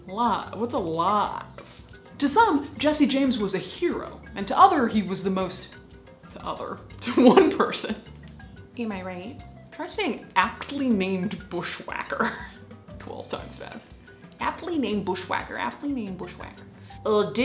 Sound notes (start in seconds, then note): 7.2 laughs